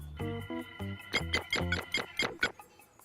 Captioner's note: keypad tones